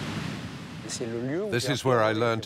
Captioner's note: speaking in foreign language